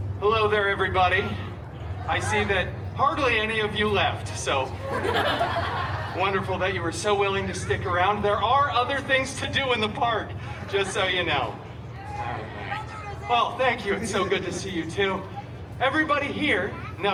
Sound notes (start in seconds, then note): 4.6 guests laughing